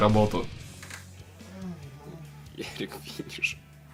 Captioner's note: hangover moans